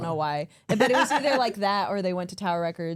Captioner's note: center Person laughs